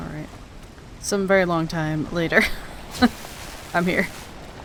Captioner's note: laughs